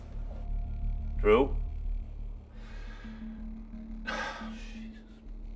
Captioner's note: sighs